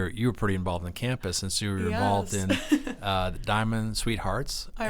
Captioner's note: laughs